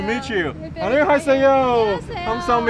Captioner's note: speaking foreign language